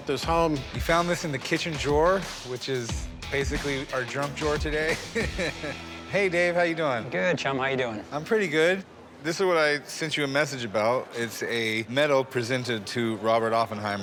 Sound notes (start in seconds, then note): 4.9 laughs